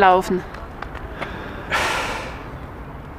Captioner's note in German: Er seufzt